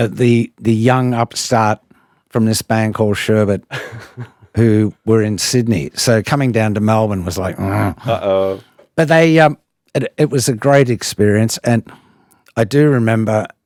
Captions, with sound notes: the young upstart from this band called Sherbet who were in Sydney. So coming down to Melbourne was like, *grunt* Uh oh. But they, it was a great experience and I do remember